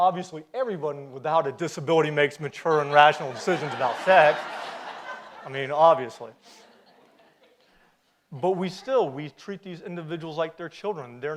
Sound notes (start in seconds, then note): 4.2 audience laughs